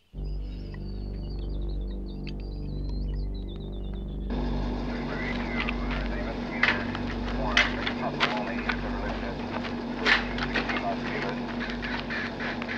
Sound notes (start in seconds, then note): 0.1 ominous music; 5.3 dispatch chatter over radio